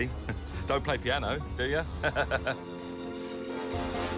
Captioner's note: laughs